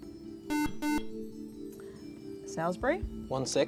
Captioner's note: buzzer